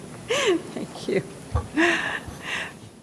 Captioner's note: laughs